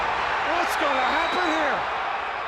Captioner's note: crowd cheering